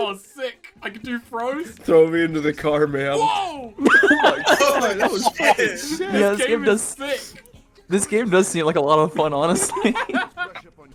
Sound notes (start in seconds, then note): 3.8 several people laughing and screaming